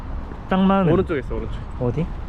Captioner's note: car